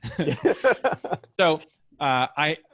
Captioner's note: laughs